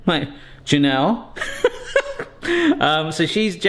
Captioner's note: laughs